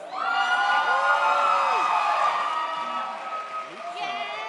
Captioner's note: audience cheers